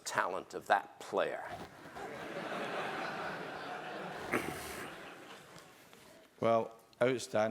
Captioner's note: laugh